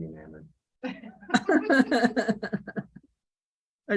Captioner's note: laughter